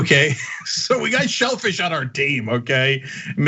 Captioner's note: laugh